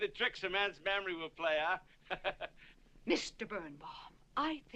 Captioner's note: laughs